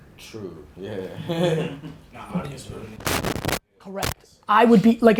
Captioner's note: laughter